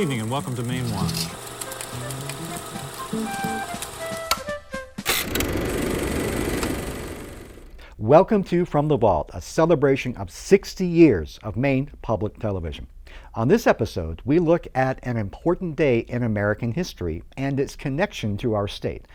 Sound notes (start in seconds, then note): 2.3 upbeat music; 3.7 projector clicking